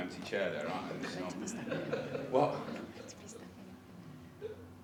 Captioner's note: they confer in whispers